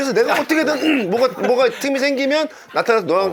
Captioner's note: clearing his throat